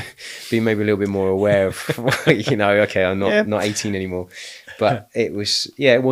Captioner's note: laughing